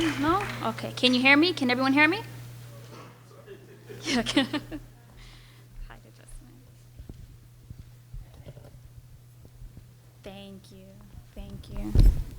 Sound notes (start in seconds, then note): 3.6 laughs